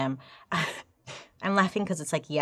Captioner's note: laughing